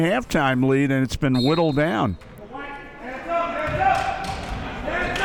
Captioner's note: whistle blowing